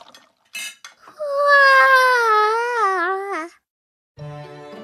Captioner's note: yawns